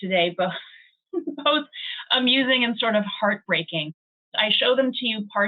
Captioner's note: chuckles